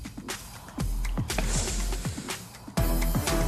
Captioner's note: sniffles